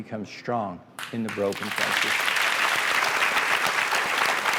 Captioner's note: clapping